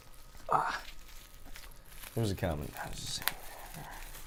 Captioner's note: murmuring